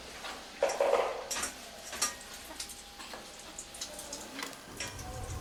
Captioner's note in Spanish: Sonidos de cocina